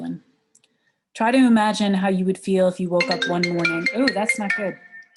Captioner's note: phone ringing